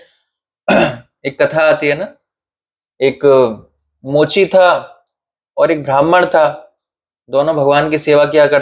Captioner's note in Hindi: गला साफ़ करने की आवाज़